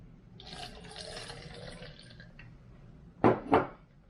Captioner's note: water splashes